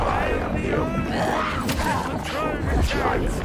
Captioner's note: grunting